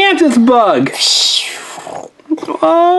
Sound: makes whooshing noises

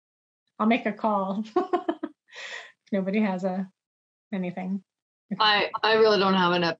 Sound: laughs

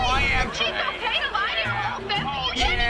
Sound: arguing

